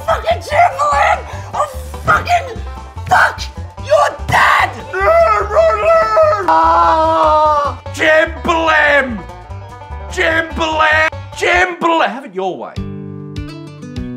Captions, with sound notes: Fucking Jambalam! I'll fucking.... fuck ... your dad! *moaning and weeping* JAMBALAM!!! *screams* AHHHH Jamba... Jambala... JAMBALAM!!! your way Have it your way